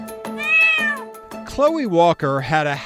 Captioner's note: cat meowing